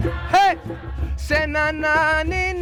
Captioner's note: crowd